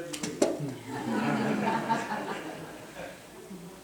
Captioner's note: laughter